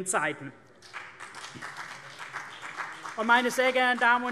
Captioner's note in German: Beifall CDU und BÜNDNIS 90/DIE GRÜNEN